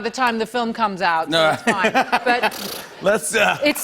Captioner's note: laughter